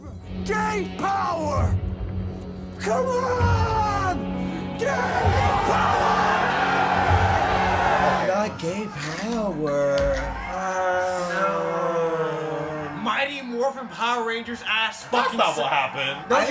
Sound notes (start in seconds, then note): 2.6 crowd begins chanting and screaming "Gay Power"; 10.1 collectively groans